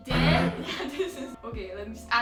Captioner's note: laughs